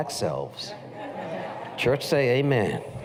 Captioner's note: laughter